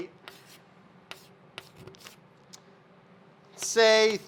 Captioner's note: chalk writes on chalkboard